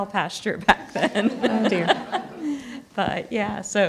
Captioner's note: everyone laughs